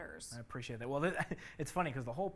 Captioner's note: chuckles